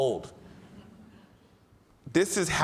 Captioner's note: audience laughs